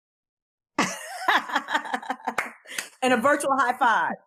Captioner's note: laughs